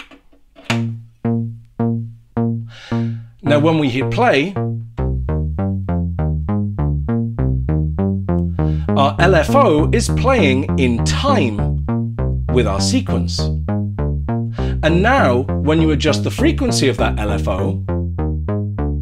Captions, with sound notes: Now, when we hit play... [more synthy noises] ...our LFO is playing in time with our sequence. And now when we adjust the frequency of that LFO...